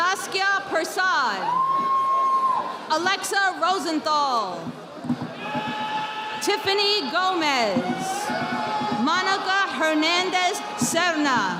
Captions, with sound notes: Rasaskia Prasad. Alexa Rosenthal. (audience applauding) Tiffany Gomez. Monica Hernandez Cerna.